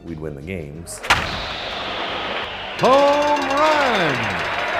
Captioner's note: cracking